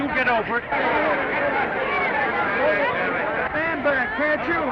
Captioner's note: reporters chattering